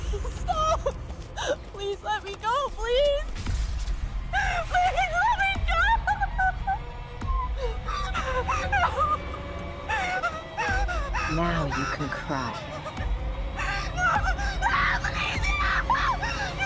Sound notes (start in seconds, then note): 7.2 Maria sobbing